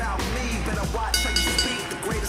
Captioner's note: bell